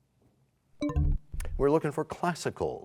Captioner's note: bell chimes, time expires